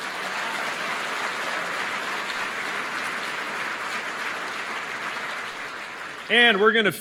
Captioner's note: applause